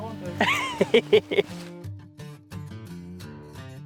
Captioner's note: laughing